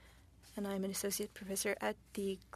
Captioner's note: speaking French